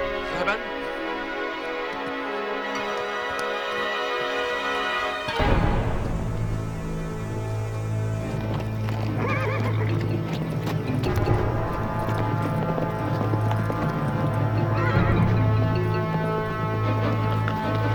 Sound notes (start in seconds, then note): 8.4 horses trotting; 11.0 horse whinnies